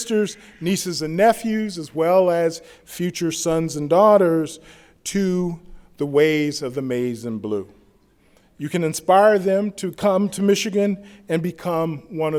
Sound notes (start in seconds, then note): none